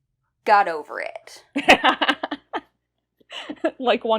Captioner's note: laughs